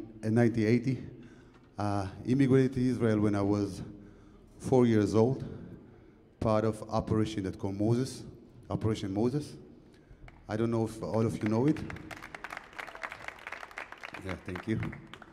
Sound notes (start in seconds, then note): 10.8 audience clapping